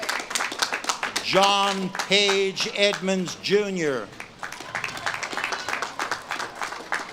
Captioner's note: audience claps and cheers